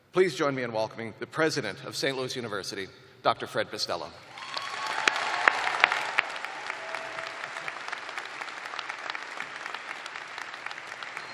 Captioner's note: cheers and applause